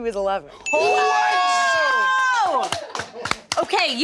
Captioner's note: group exclaims; bell dings